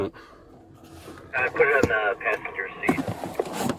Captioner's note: radio chatter